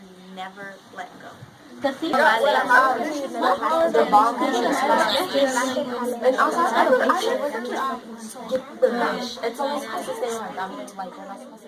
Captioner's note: students discuss